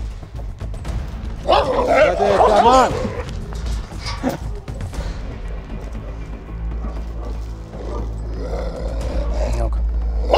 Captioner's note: barking, growling sounds and tension music